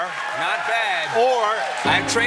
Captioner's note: cheers and applause